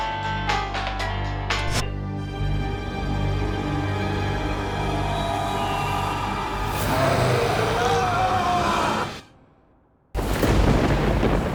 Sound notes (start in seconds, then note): 5.6 growling; 7.5 Keith screaming; 10.5 theme music